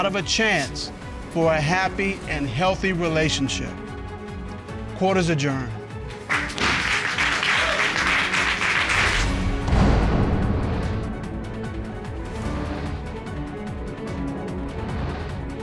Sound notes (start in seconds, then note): 6.2 crowd cheering; 10.0 dramatic music playing